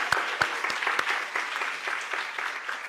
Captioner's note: applause